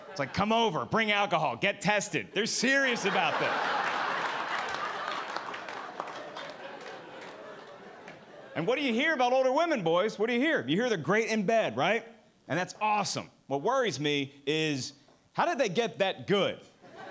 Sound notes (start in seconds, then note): 2.9 audience applauding